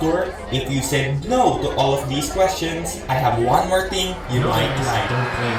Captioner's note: audience screams in blood-curdling terror